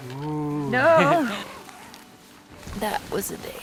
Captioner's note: chuckles